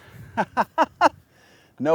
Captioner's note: laughs